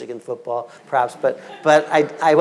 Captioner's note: audience laughing